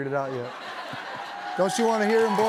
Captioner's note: laughter, cheering